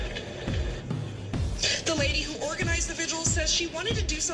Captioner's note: on TV